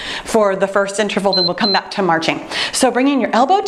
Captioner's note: timer beeping